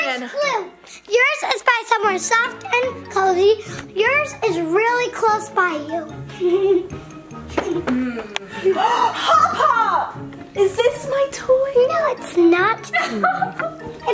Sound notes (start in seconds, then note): 6.4 giggles; 7.8 gasps